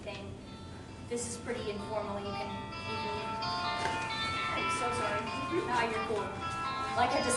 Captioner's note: phone ringing